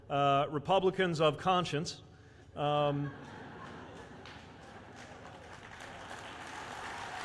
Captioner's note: laughter/applause